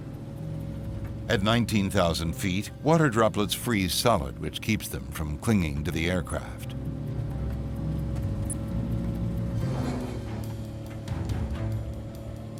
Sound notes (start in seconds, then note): 7.0 airplane engine roaring; 9.7 sinister music